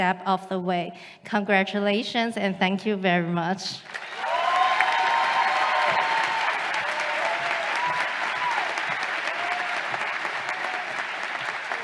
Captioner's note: applause